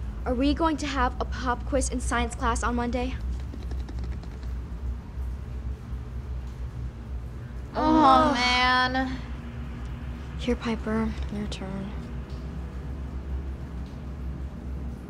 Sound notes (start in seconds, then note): 7.8 group sighs